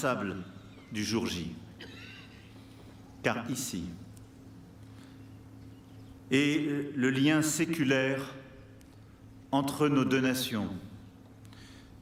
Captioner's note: speaking french